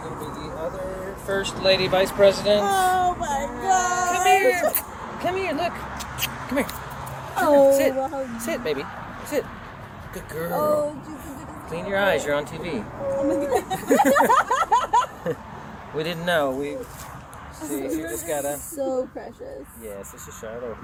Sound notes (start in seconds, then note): 13.0 laughs